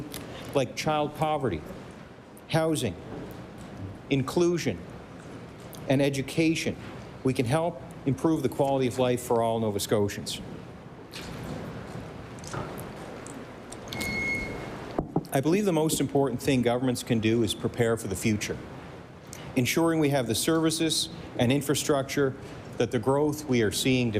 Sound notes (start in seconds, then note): none